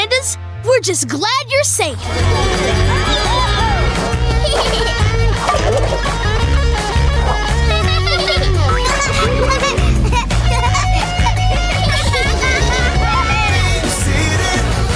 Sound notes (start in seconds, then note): 5.4 hitting cans; 8.4 jumping and laughing